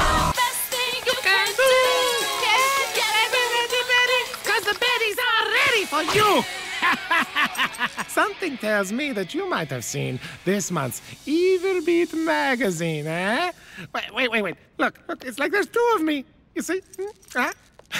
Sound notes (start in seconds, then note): 1.5 singing along; 5.5 singing along; 6.4 evil laugh